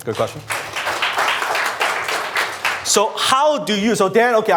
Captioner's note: applause